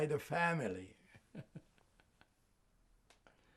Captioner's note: laughing